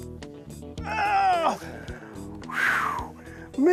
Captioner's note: sighs